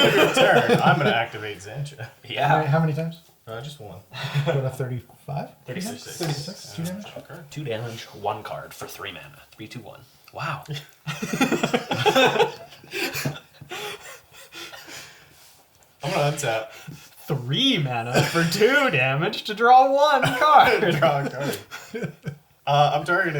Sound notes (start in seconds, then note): 4.2 all laugh